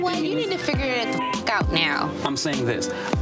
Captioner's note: beep